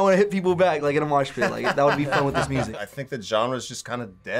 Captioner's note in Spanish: risas